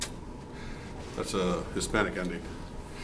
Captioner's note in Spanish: in English